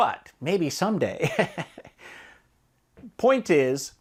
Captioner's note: laughs